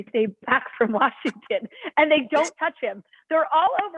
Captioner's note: laughter